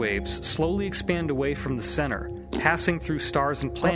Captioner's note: fart noise